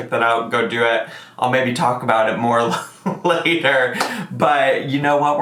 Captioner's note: laughs